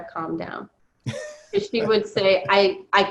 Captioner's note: laughs